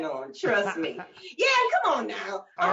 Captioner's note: chuckling